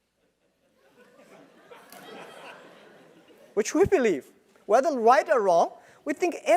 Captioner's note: laugh